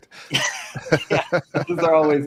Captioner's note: both laughing